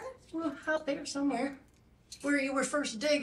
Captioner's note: none